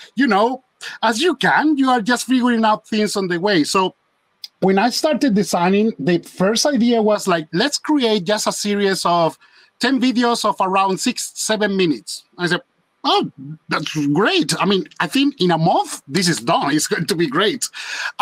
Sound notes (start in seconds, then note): none